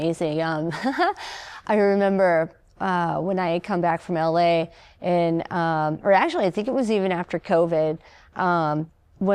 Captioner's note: laughter